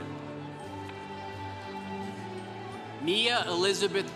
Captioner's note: congregation cheering